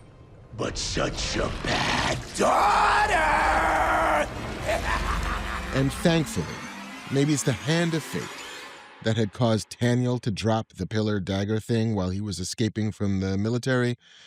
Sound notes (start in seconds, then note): 4.0 laughs menacingly